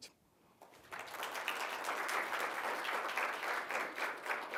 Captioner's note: applause